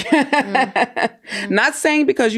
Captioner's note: laughs